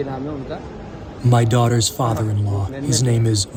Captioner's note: through translator